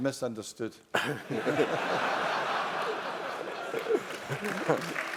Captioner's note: laugh; applause